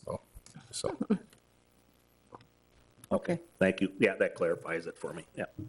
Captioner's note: chuckles